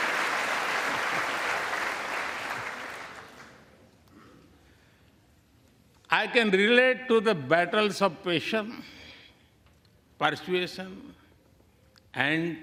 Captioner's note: applause